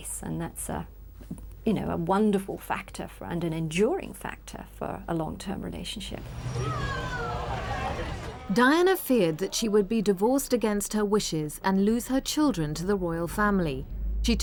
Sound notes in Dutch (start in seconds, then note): 6.4 vrouw schreeuwt